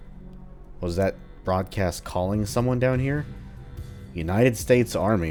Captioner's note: emergency Klaxon Blaring Nonstop